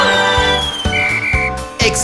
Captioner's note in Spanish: Sonido de silbato